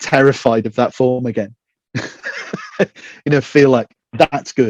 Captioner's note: laughing